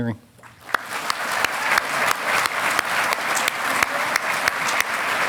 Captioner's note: audience applauding